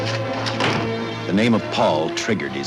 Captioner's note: dramatic music; door shuts